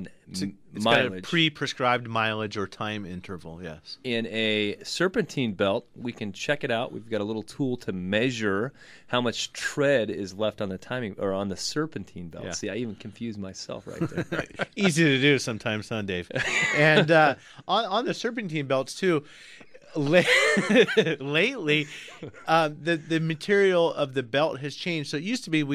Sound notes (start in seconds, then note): 16.3 laughs; 21.7 laughs